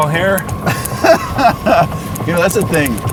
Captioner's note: laughs